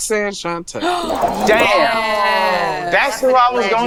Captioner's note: woman gasping